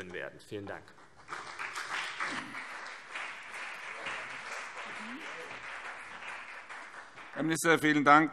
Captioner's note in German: Beifall CDU und BÜNDNIS 90/DIE GRÜNEN